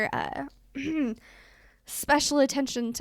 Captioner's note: ahem